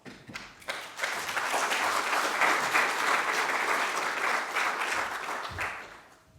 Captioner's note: applause